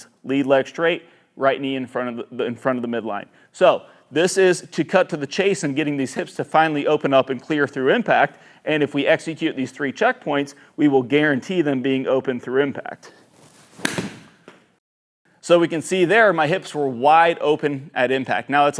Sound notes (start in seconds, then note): 13.5 golf ball thwacks